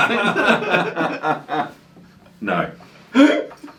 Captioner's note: both laugh